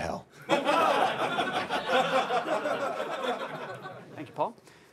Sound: laughter

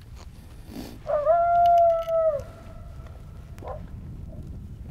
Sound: coyote call howling

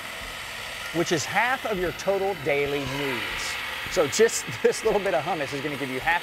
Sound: grinding noise continues

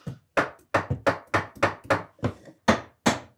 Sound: hammering

